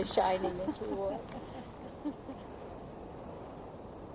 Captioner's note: laughter